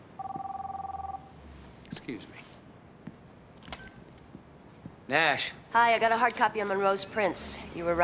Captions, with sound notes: (phone ringing) Excuse me. (phone beeps on) Nash. Hi. I got a hard copy of Monroe's prints.